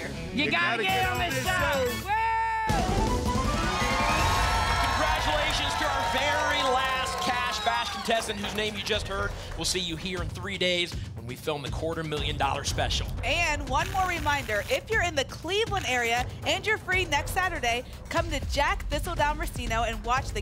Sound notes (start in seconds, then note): 3.7 applause and cheering